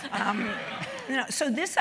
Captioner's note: laugh